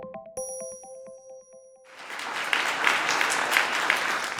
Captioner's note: applause